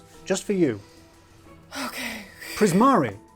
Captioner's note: exhales deeply